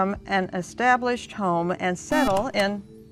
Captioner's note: beep